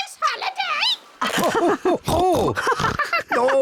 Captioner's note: both laugh